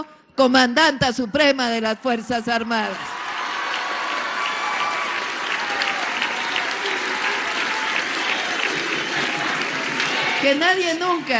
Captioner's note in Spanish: aplausos